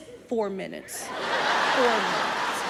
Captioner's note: audience laughing